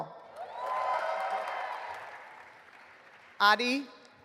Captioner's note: audience applauding